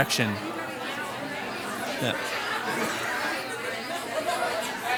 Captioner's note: participants conversing